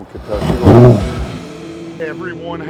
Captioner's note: boat engine revving